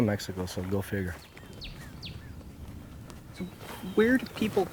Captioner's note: birds chirping